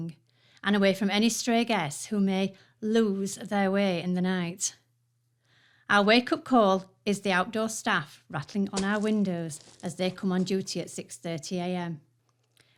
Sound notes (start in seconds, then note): 8.4 pebbles thrown at window